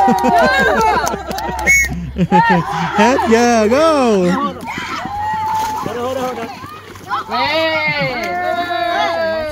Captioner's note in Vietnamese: Vỗ tay